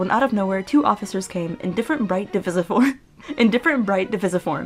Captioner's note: surely laughing